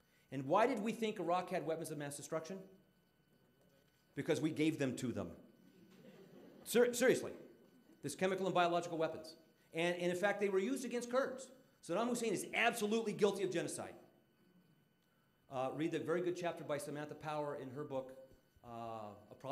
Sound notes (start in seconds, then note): 5.9 audience laughing